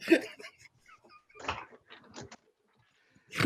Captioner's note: laughing